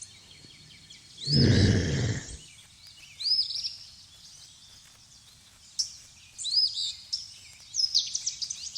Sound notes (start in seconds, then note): 1.6 woman groaning